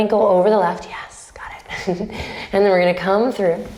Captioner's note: chuckles